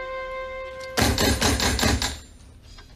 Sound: door knocks

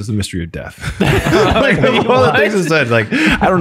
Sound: all laugh

